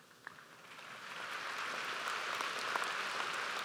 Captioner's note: audience applauds